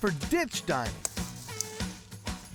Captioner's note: snapping, cutting sound